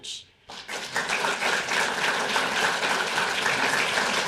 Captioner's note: audience applauding